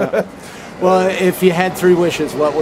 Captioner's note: laughs